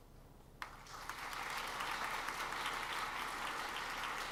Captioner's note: audience applauds